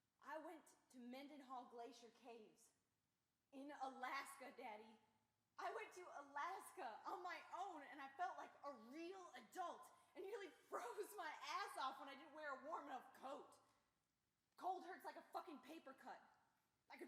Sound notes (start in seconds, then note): none